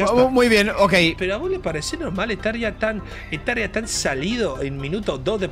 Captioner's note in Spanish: acento argentino